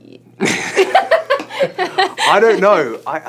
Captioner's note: laughter